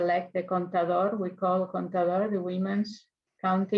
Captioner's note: speaks in foreign language